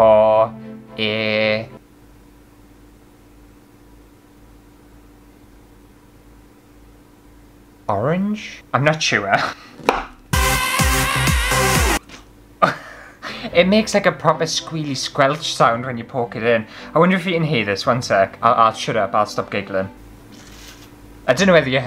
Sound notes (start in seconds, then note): 9.8 chop; 20.1 squelch